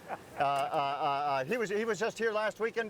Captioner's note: chuckling